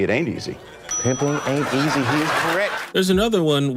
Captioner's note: audience laughter